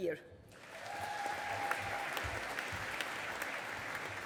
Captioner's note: audience applauding